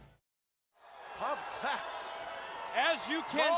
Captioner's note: crowd cheering